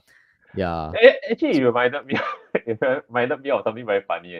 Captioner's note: laughs